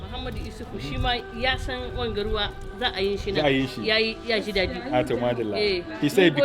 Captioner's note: speaking in foreign language